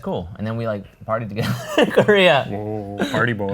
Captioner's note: laughs